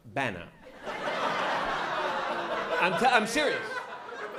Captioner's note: laughter